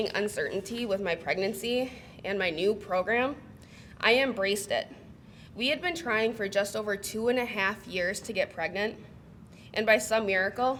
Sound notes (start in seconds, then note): none